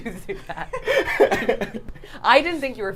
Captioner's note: both laughing